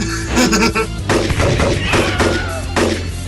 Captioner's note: gunshots